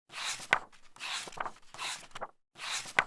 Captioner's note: pages turning